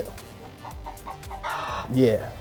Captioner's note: chickens clucking